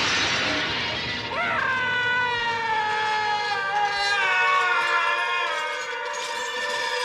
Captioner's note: berteriak